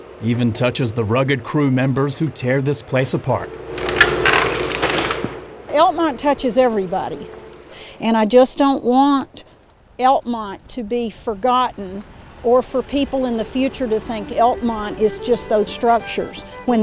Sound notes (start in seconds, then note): 3.6 wood cracking